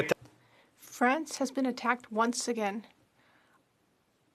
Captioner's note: speaking French